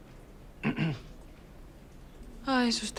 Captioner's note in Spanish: carraspea